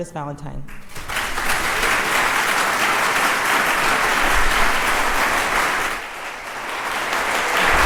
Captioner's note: crowd applauds